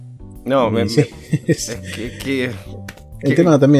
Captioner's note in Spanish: risas